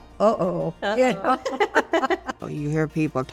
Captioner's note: laughing